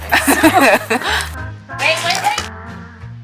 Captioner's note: both laugh